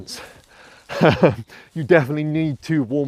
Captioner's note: laughs